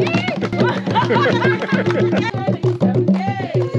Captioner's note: laughs